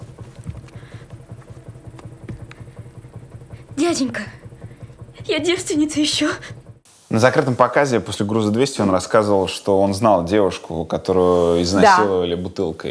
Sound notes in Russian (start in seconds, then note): 3.6 Жалостливым, срывающимся голосом